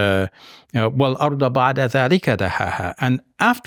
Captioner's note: speaking in Arabic